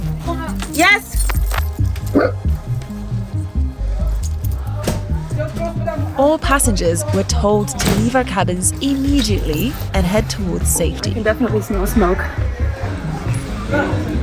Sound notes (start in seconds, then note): 0.0 fabric rustling; 0.0 chain rattling; 2.1 Vilk barks; 7.7 door shuts